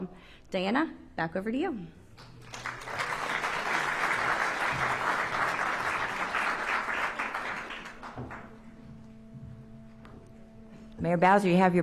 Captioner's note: applause